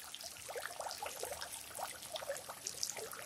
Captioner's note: sounds of waterfall